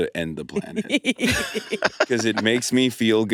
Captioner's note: all laughing